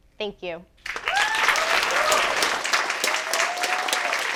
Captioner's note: clapping